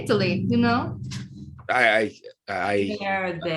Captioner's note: sputtering